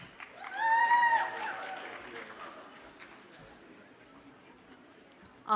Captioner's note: audience cheers and applauds